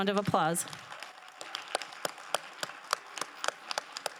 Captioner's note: crowd applauding